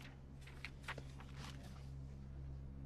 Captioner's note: Ted muttering